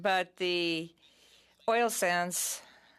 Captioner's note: speaking French